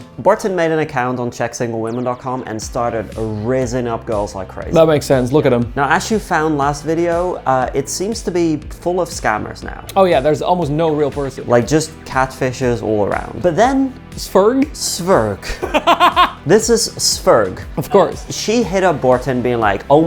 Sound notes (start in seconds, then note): 15.4 laughing